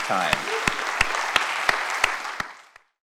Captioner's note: audience claps loudly